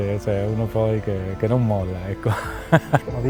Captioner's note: laugh